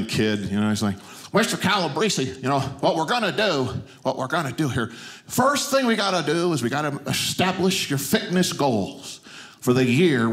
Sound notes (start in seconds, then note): none